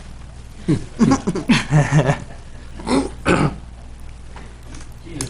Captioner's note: some chuckles